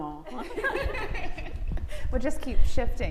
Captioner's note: both laughing